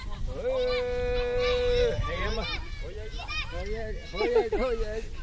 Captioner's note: speaking Yanomami